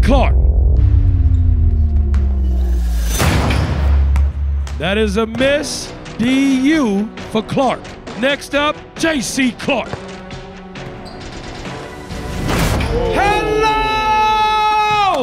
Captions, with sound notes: (soft dramatic music) (ball bouncing) (ball thudding) (ball bouncing) That is a miss. D-U for Clark. Next up JC Clark. (ball bouncing) (ball dunking) - Ooh! - Hello!